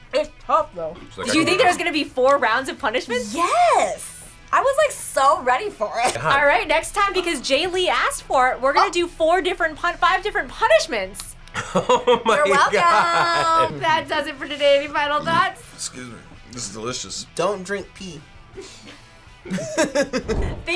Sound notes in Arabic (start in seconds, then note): 11.5 يضحك; 15.2 التجشؤ; 19.4 كلاهما يضحك